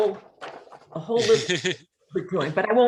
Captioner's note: laughs